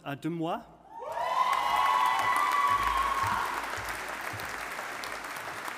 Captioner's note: audience applauding